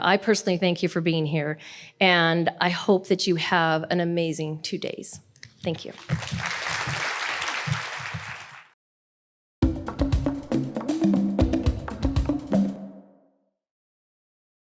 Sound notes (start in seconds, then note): 5.8 audience applauding; 9.6 upbeat music